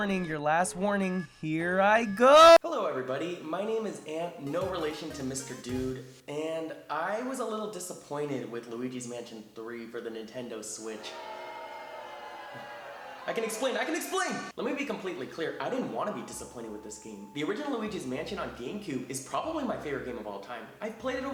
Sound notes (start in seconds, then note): 10.9 audience booing